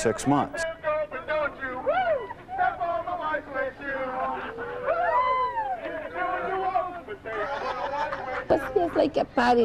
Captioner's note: chants